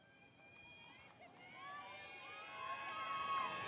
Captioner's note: cheering